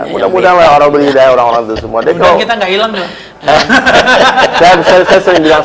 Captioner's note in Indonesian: tertawa